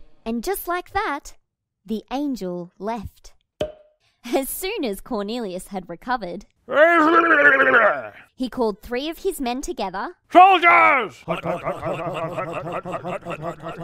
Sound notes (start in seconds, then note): 3.6 pop!; 6.7 groaning